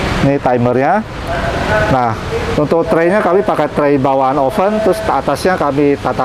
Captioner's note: praying sound